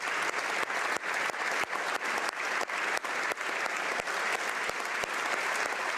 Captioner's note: applause